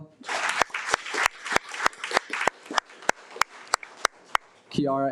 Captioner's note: audience applauding